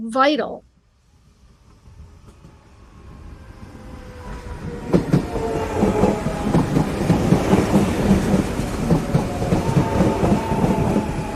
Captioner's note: rhythmic sounds of electric train pulling into train station